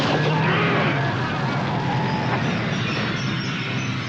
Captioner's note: gun shot; brakes squeal, tires screech